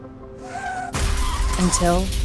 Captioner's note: screech; crash